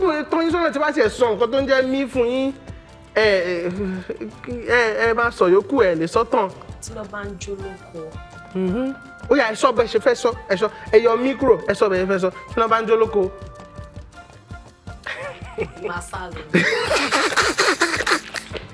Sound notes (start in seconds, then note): 12.9 laughs